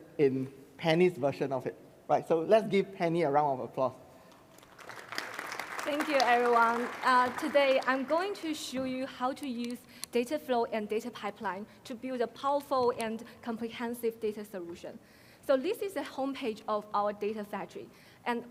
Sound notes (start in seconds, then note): 4.5 crowd applauding